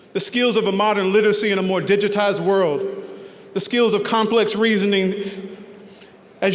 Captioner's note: none